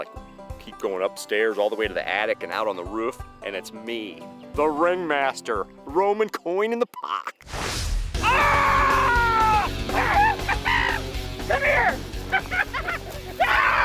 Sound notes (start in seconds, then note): 8.2 screams; 8.2 fast guitar music